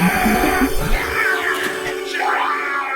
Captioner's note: ghostly groaning